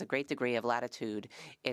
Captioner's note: speaking French